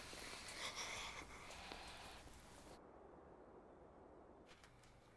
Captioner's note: chuckles to himself